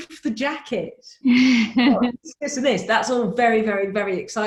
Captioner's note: laughs